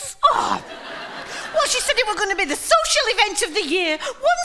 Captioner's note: impersonating Marge